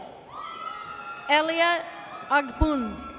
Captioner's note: audience cheers